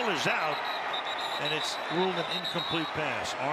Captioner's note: whistle